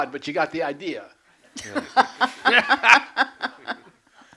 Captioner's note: laughter